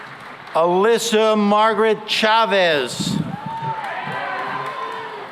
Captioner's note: cheering and applause